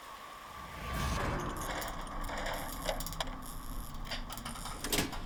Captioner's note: electricity crackling